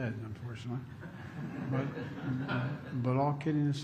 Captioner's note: laughter